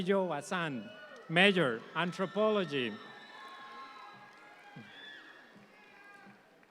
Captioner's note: audience applauds